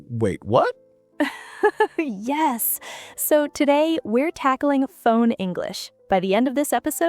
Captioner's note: laughing